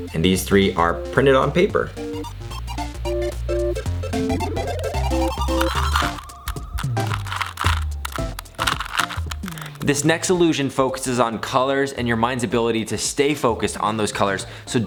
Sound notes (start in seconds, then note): 2.1 upbeat electro music; 5.2 Rubik's cube shuffling